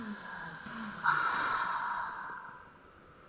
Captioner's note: sighs